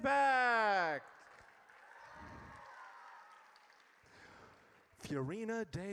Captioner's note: audience cheers